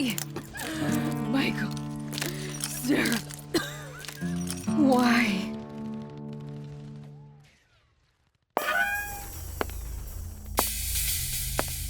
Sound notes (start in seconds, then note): 2.2 breathing heavily; 2.2 continues to breath heavily; 3.5 woman coughs; 9.6 Albert's footsteps echo, gun is cocked